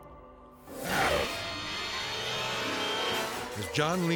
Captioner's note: intense dramatic music; growls